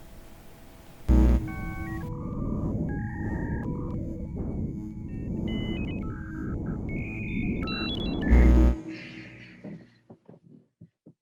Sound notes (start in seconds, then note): 1.0 buzzing